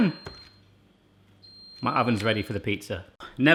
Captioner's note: beeping